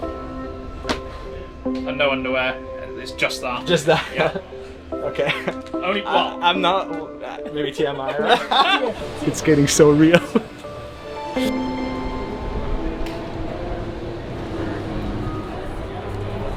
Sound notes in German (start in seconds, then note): 3.7 lacht; 8.0 Gelächter im Hintergrund